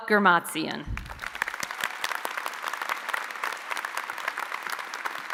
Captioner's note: audience applauding